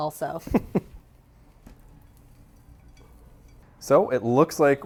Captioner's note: laughs